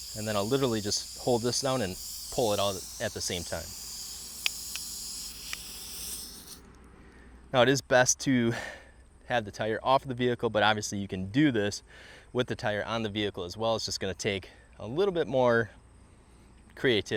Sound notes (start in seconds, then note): 4.3 tire deflating sound